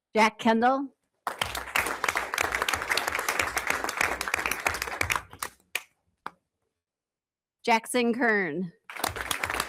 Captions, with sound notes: Jack Kendall. (everyone applauds) Jackson Kern.